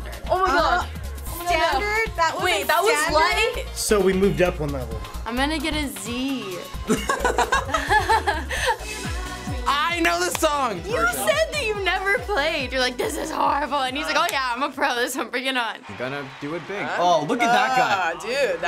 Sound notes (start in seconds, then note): 6.8 laughing